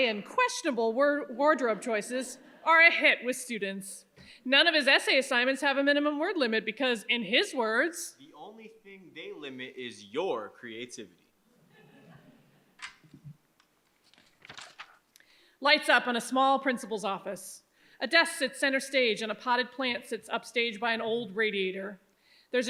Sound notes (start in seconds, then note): 11.6 audience chuckles